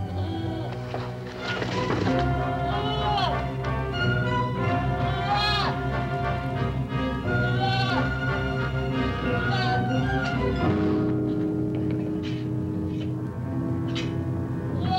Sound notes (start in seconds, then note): 2.4 bleating